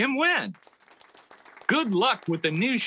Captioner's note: audience clapping